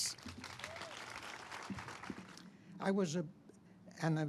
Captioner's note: audience applauding